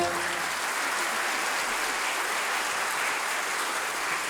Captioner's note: audience applauding